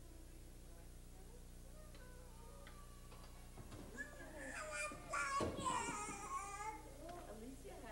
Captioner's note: people talking, girl crying